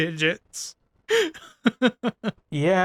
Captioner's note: laughter